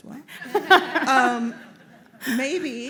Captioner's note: laughter